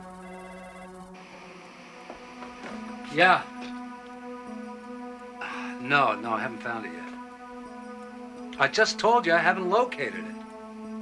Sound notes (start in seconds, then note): 0.2 telephone rings; 5.4 sighs